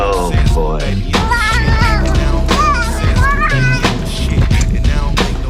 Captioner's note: more squealing